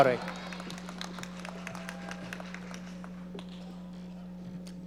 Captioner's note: audience applauding